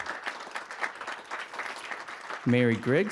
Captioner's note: applause